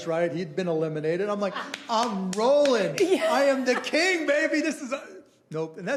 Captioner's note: laughing